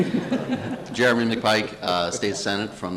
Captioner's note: crowd laughs